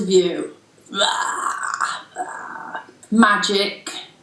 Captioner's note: throaty sounds